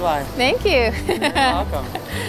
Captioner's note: laughs